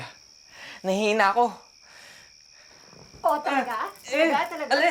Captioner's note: none